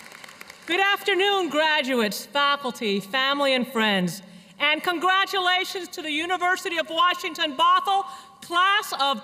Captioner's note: cheers and applause